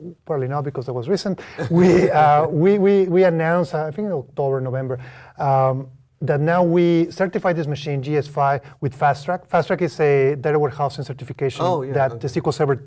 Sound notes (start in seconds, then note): 1.5 laugh